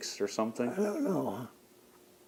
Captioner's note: clears throat